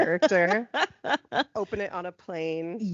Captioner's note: laughing